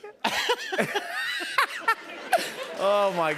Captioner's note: laughter; chuckles; applause